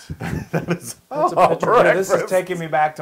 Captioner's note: laugh